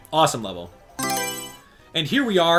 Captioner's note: Mario Selection Sound